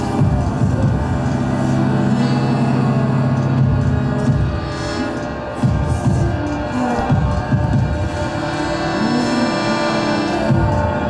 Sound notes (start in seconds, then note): 7.0 voices groaning